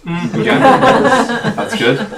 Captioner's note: all laughing